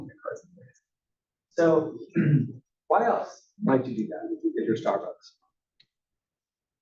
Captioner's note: cough